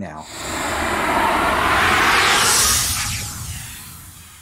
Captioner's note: air whooshing